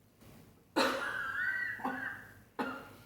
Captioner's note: laugh